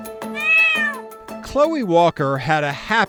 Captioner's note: cat meowing